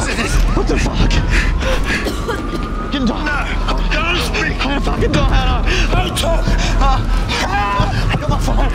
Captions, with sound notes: - It's okay. - What the fuck. (coughing) - No, don't speak. (incoherent screaming) Don't talk! Help!